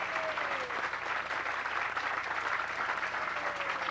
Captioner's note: applause